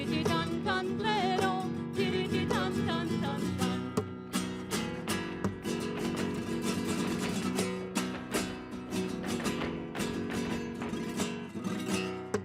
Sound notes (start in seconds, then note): 6.5 heels rhythmically clicking